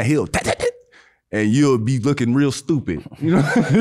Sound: laughs

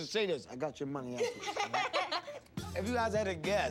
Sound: laughs

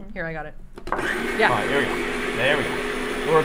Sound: ice cream maker whirring

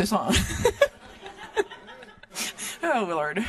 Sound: laughing

